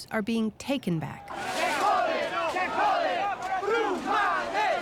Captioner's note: chanting in Spanish